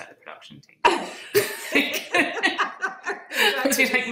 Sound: all laughing

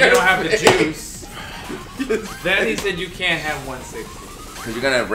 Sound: laugh

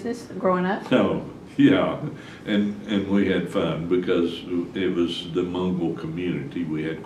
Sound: laughs

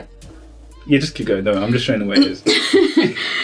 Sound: laughter

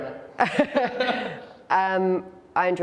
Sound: laughter

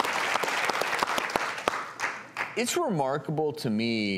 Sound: clapping

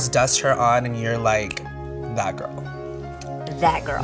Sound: fingers snap

